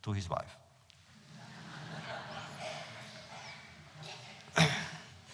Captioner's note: laughter